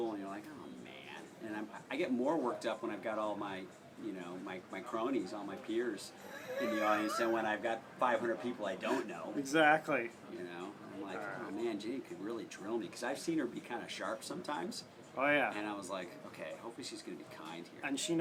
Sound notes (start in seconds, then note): 6.2 laugh